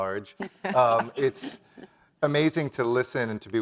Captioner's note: laugh